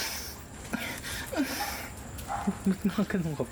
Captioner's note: good moaning sounds